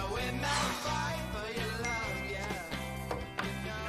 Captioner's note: cell dings